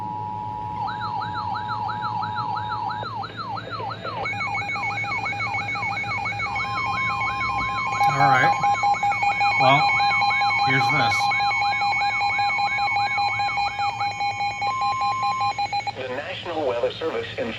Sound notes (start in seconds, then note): 0.0 two-tone ATTN Signal; 0.8 Radioshack 12-519 Warning siren; 0.8 two-tone ATTN Signal; 4.2 Midland Warning siren; 4.2 RadioShack 12-519 Warning siren; 7.6 Midland Warning siren